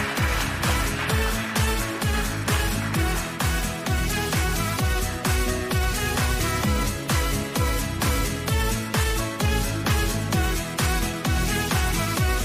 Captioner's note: applause